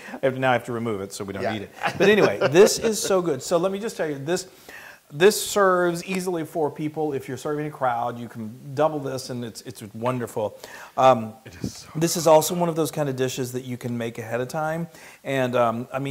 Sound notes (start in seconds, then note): 1.4 laugh